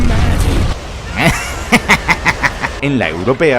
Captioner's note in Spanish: risa de psicópata